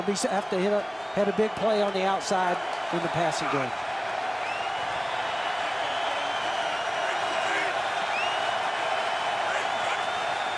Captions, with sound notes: but it's going to be set after here. Had a big play on the outside in the passing game. [cheering]